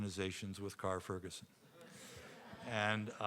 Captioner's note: audience laughing